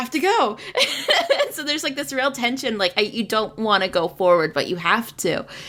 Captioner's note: laughs